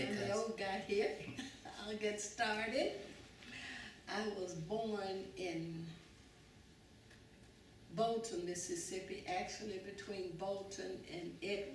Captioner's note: laughs